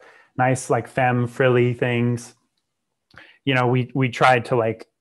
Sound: breath; clicks tongue

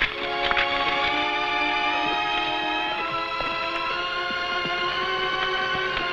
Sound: horse hooves pattering

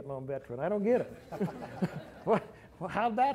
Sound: laughter

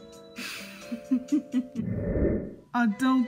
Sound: chuckles softly

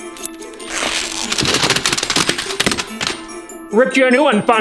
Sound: stocking tearing

